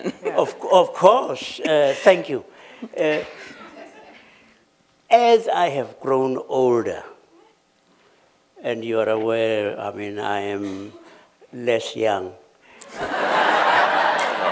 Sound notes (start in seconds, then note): 12.8 laughter